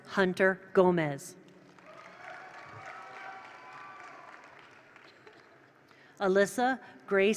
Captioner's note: attendees applaud; attendees cheer